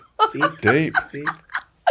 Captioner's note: laughs